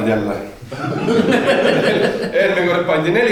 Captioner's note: laughing